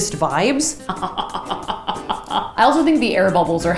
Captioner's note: laughs evilly